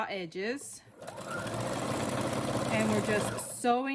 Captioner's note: sewing machine whirring